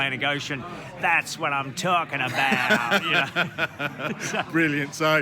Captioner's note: laughing